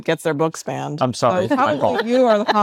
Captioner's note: attendees laughing